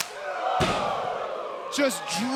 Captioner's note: crowd exclaiming